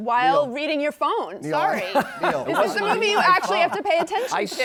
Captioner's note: laughing